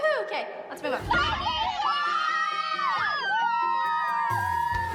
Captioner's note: all shouting and cheering